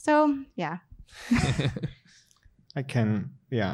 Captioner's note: laughter